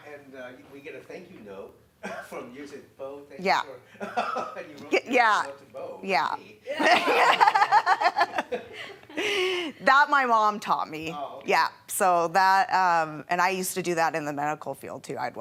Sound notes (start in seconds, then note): 3.2 laughing